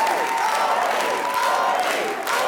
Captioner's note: crowd